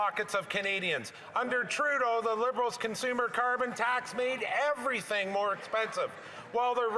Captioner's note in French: voix de l'interprète